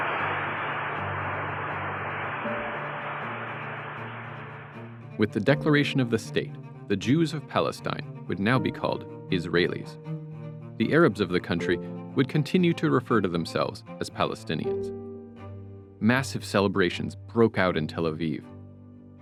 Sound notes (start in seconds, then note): 3.0 applause